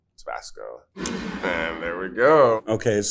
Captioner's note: bottle scrapes